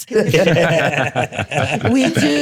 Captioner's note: laughter